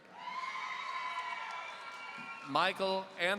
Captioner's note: audience cheering